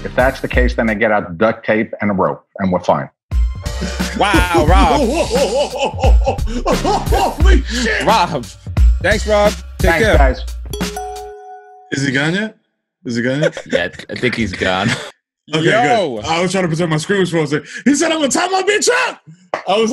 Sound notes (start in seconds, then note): 4.3 desus and mero laugh; 10.7 dinging sound